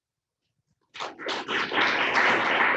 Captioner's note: applause